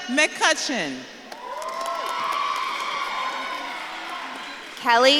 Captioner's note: audience claps and cheers